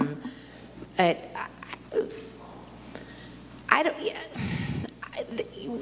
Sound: stammers

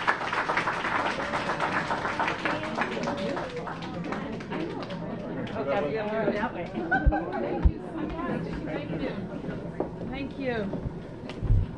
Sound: applause

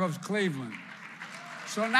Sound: applause

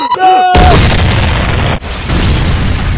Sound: screaming; cannon Fires

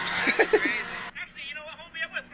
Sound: laughs

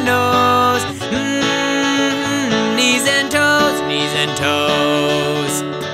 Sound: humming

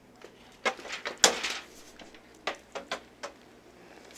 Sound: clatters

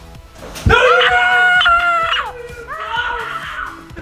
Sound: screaming

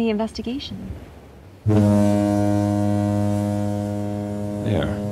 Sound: ferry horn blast

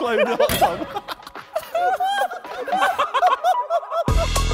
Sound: men laughing

